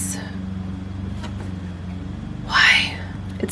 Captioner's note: lawn mower noises